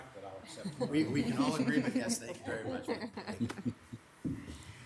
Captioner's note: group laughs